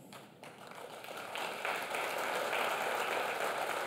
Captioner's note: clapping